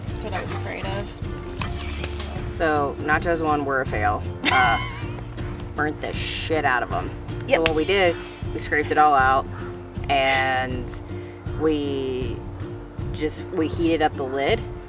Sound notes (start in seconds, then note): 4.4 laugh